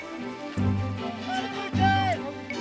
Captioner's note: calls